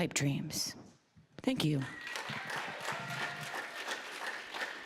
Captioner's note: applause, cheering; applause